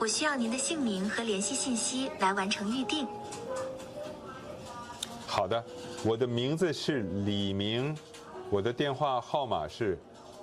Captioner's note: non-english